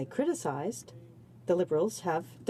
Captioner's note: speaking French